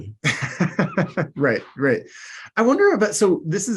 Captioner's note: laughs